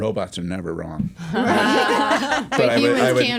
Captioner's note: laughter